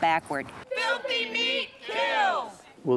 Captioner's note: crowd chanting